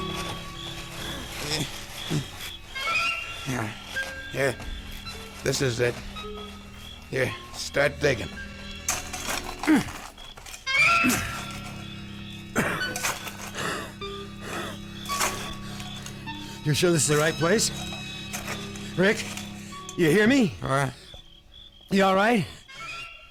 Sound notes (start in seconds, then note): 11.2 dirt crunching; 12.3 grunting; 14.9 coughs; 16.4 breathing heavily